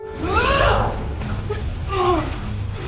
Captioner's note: dramatic music; Gabriella grunting; tense music